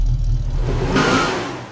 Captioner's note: engine Revving; tires Squealing